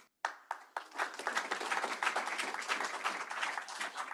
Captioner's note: applause